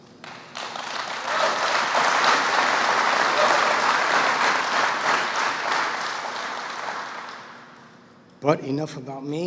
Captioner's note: applause